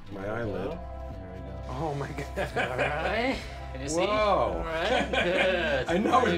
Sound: laughs

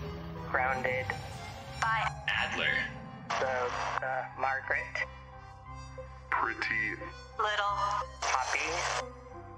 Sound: radio

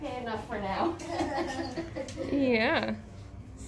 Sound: laughing

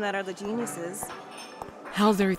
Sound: footsteps

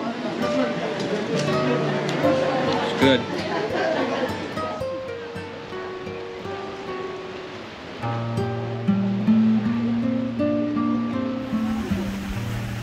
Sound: ocean Sounds

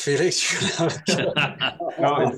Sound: all laugh

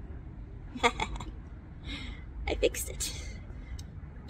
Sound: exhales

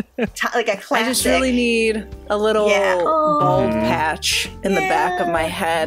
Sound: laughter

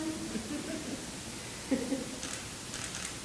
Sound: group laughs; camera clicking

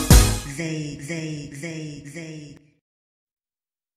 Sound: echoing

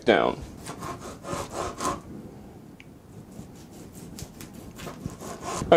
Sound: cutting sounds

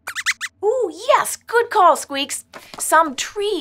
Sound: squeaks squeaks

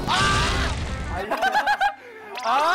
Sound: laughing

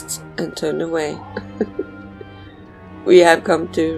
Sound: laughs

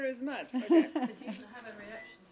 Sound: laughter

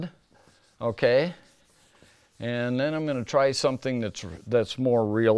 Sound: eraser swishing

